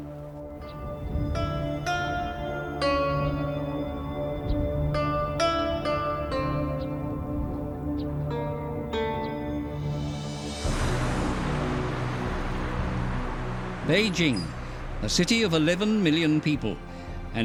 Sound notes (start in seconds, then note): 1.5 melancholic string melody; 10.6 cars rumbling